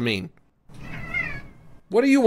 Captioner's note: Wolfo meows